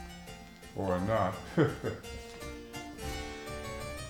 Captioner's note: chuckle